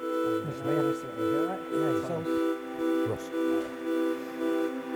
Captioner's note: men murmuring